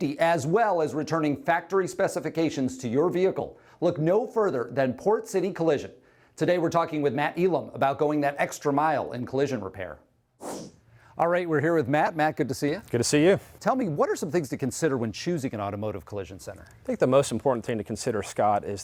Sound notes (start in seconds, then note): 10.4 whoosh sound